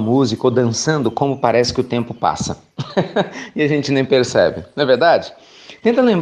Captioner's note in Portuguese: Risos